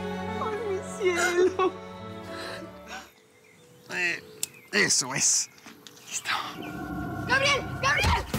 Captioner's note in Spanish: risas; sollozos